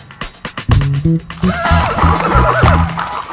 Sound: horse Naying

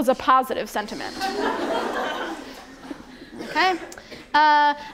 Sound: attendees laugh

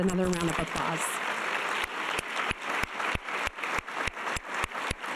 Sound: audience applause

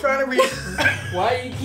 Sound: laughs

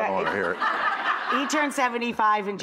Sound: laughing

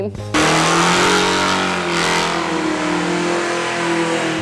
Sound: engine revs

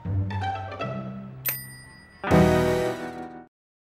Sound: bell dings

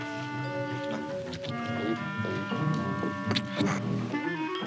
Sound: squishing; gulping; slurping

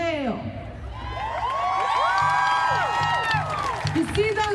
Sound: audience cheering loudly

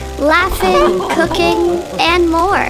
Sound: group laughter

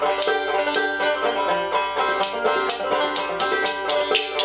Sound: spoons clacking

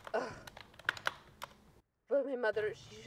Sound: Ms. Gonzalez gasping

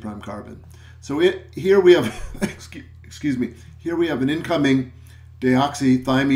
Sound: coughs

